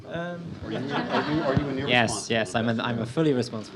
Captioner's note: audience laughs